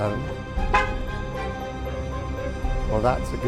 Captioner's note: horn honking